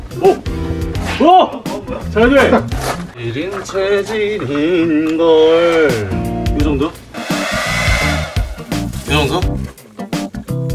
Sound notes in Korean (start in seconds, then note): 7.2 드라이기 소리